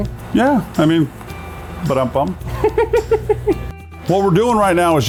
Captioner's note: laughter